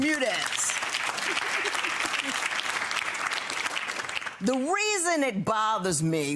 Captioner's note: clapping and laughing